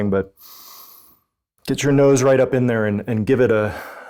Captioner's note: inhales